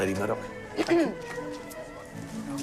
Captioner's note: woman clears throat